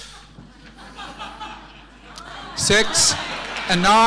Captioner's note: audience laughing